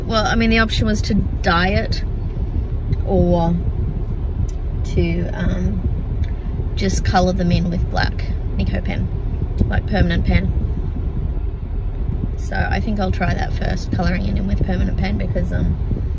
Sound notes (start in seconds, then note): none